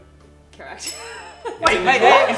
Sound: giggles

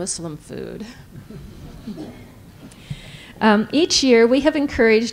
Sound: laughter

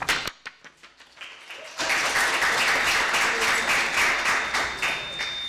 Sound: audience applauding

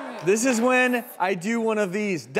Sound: audience reacts vocally

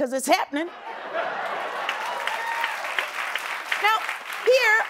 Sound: cheering and applause

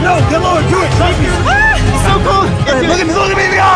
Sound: screams

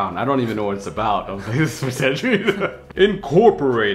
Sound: mumbles and chuckles

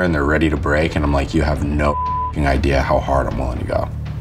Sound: beeps

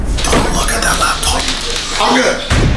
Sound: whispering

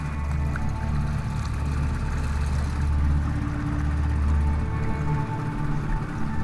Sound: tense music; engine puttering

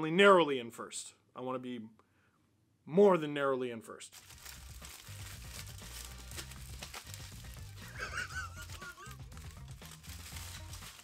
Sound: tinfoil crumpling and laughing

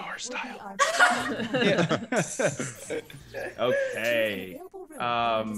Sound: laugh

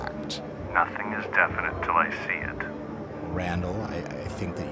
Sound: voiceover

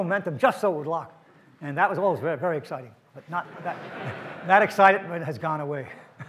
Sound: audience laughs

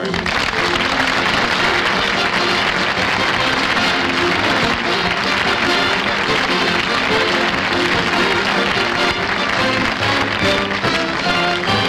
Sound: audience Applauding

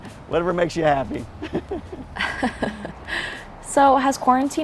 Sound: both laugh

